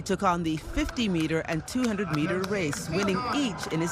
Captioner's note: applause